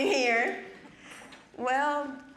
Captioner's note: audience chuckling